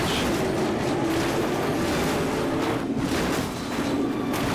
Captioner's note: crash clattering